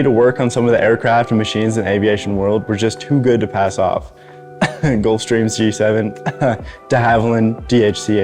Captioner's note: coughs